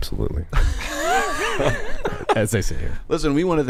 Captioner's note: everyone laughs